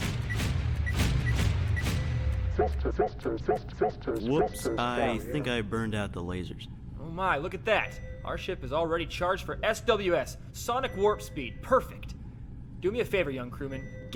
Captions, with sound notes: (laser blasting) (computer stammering) Woops, I think I burned out the lasers. - Oh my, look at that. Our ship is already charged for SWS, sonic warp speed, perfect. Do me a favor, young crewman.